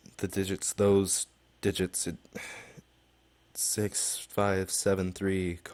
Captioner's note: sigh